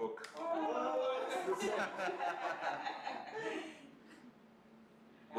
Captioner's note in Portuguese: risos